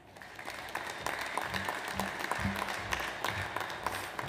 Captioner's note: audience applauds